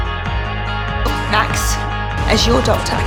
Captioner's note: voiceover